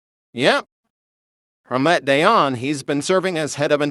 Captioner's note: none